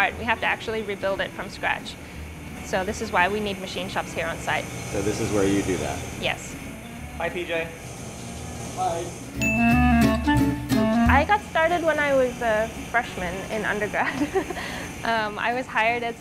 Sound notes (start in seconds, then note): 9.3 upbeat music; 9.4 ding; 14.0 laughs lightly